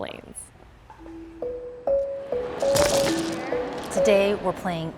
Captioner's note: tiles clacking and shuffling